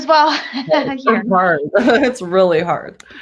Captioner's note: laughter